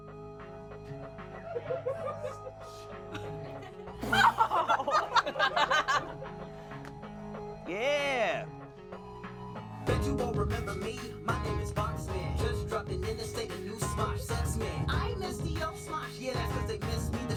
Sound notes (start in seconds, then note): 0.2 upbeat music; 3.1 everyone laughs